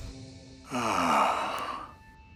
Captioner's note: Louis groans